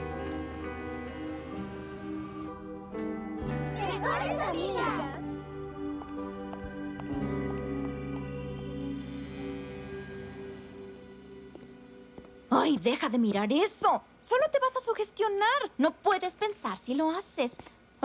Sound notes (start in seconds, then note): 4.0 all shouting; 5.3 sad music